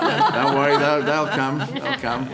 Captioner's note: laughing